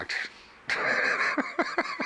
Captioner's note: laughs